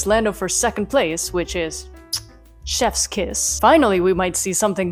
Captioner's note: mwah